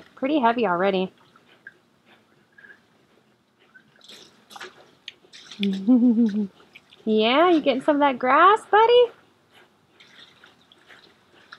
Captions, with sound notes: Pretty heavy already. (laughs) Yeah, you get some of that grass buddy?